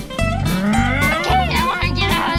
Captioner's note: imitated airplane flying